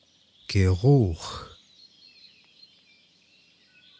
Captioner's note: german